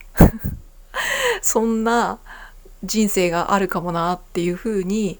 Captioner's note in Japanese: 笑い; 息をのむ音